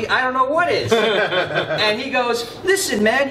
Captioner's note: laughter